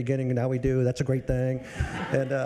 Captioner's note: audience laughs